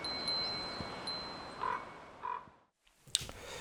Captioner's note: chimes ringing